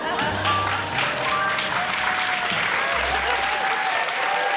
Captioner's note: cheering, applause